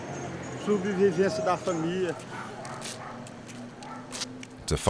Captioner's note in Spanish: <i>habla en portugués</i>